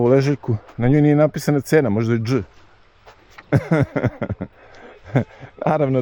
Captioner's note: laughter